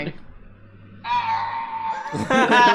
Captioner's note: Lego Yoda death noise